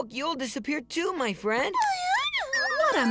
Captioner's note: squeaking